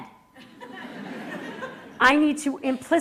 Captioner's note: laughter